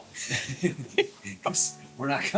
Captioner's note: laughing